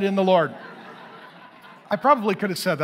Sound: congregation laughing

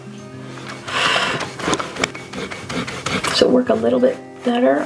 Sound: eraser rubbing

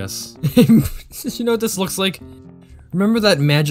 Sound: laughing

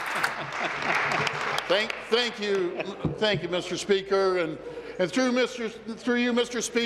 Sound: applause

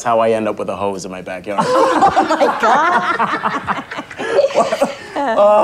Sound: all laugh

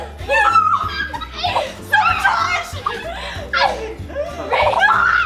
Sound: reindeer squealing and laughing

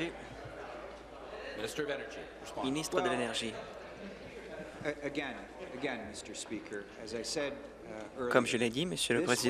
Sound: conversation din

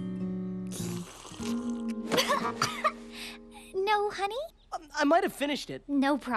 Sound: gagging

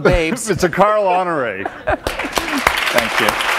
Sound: applause

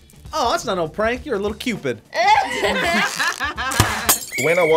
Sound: both laugh

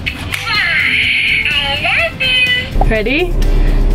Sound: sighs

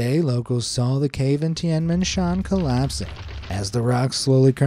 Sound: rocks falling

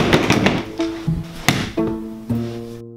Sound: thud

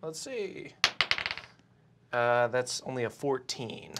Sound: die clacks

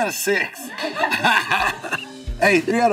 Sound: laughing

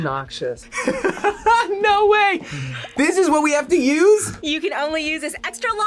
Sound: laughs

